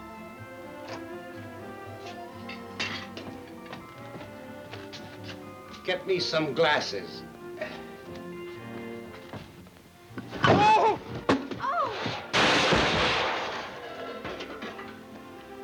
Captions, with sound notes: Get me some glasses. Oh! (Mrs. Gilbert yelps) (pots clanging)